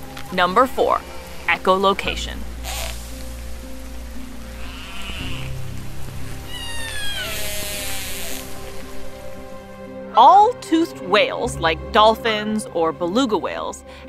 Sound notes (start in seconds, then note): 2.3 instrumental background music; 2.3 toothed whale echolocation vocalizations